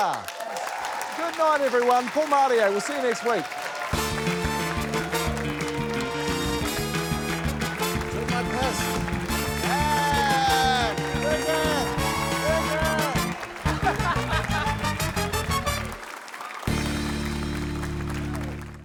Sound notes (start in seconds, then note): 0.0 cheers, applause; 3.8 upbeat theme music; 8.0 applause; 9.6 exclaims; 13.6 chuckles